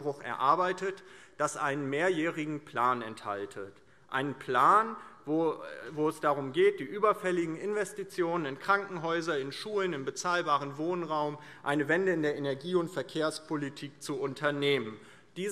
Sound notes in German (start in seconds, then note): none